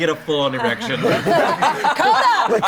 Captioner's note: all laughing